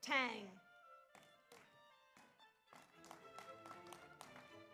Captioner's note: audience applauds